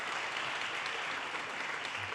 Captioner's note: audience cheers and applause